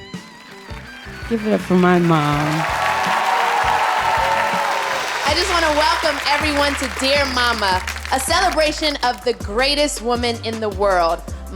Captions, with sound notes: (audience applauding) Give it up for my mom. (audience cheering) - I just wanna welcome everyone to "Dear Mama", a celebration of the greatest woman in the world,